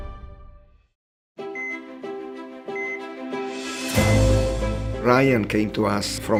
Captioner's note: dramatic music; monitor beeps